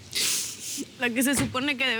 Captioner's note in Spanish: Portazos